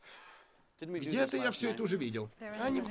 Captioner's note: sighs